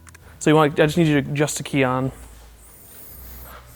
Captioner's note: pat